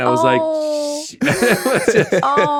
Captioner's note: Justin laughing